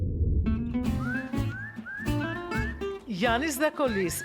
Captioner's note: whistle call